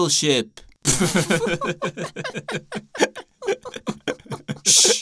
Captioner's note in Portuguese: Ambos rindo